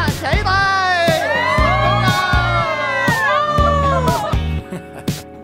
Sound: crowd cheering

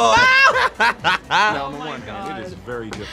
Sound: laughing

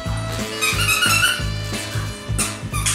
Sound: squeaky toy

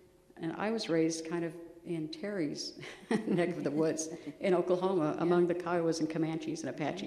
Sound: laughs

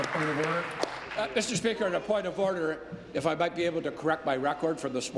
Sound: applause

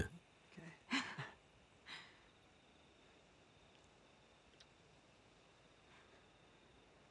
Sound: laughter

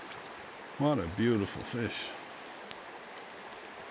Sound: water whirling

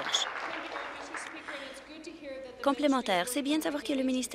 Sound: applause

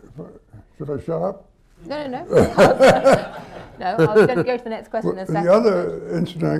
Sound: laughter

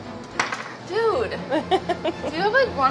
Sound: laughs

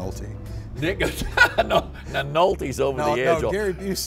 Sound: laughs

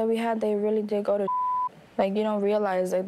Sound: beep

